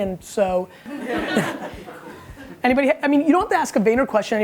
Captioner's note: laughing